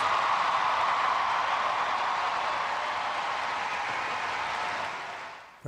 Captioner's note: cheers and applause